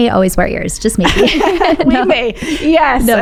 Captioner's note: both laughing